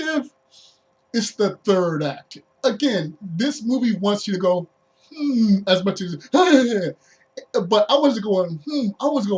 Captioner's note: scared noise